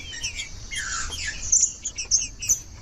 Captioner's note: trinca ferro cantando